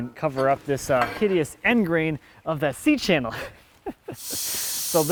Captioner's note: laughing